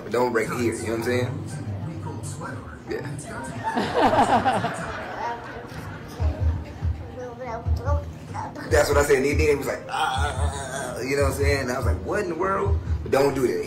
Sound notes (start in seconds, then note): 3.5 laughing; 6.3 baby babbles; 10.4 exclaiming